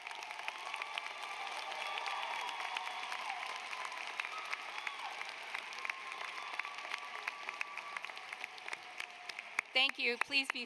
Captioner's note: applause